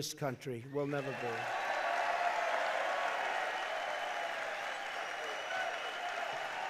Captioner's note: applause